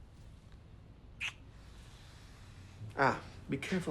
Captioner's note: lips smacking